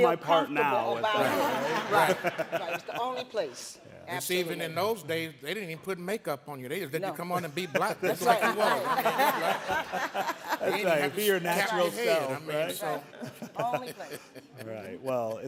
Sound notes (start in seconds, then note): 10.7 all laughing